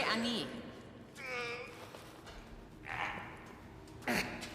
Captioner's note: man groaning